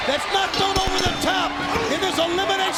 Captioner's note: bell rings